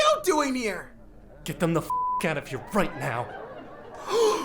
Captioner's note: beep